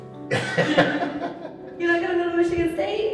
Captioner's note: laughs